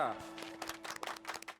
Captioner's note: clapping